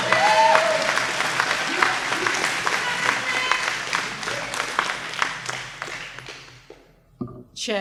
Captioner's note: applause